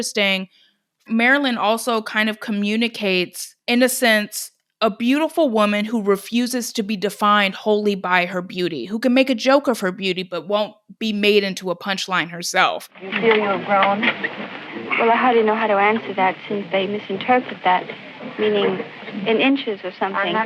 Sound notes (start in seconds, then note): 12.8 soundbite of archived recording